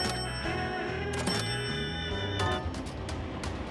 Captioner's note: alert chiming; gentle music